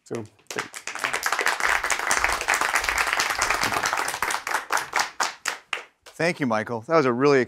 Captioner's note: applause